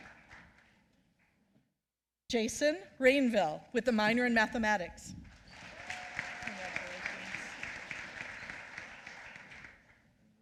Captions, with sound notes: Jason Rainville with a minor in mathematics. (applause)